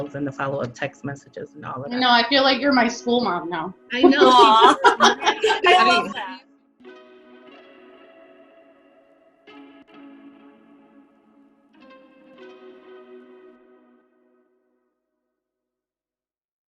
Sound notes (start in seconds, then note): 5.6 laughs loudly; 9.7 upbeat music